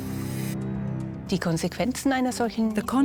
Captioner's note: in German; dubbed in English